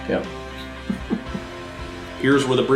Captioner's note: giggling